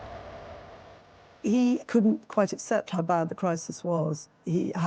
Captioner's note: Welsh